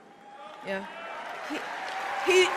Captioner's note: applause